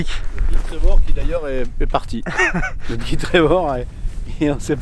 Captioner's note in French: Rires collectifs